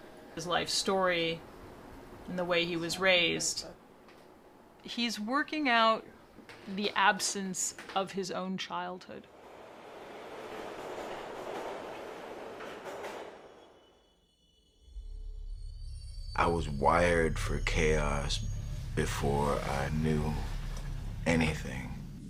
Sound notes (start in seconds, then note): 17.1 voz en off